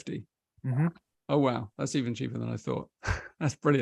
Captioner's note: laughs